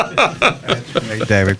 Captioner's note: laughing